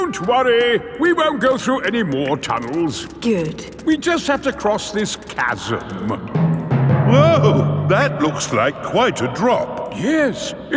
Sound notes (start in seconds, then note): none